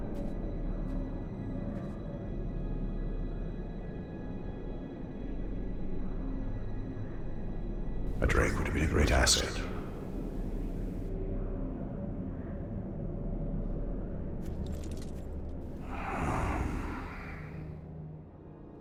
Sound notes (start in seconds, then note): 15.8 sigh